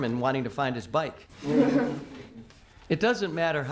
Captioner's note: students chuckle